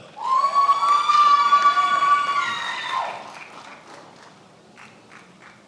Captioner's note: attendees applauding and cheering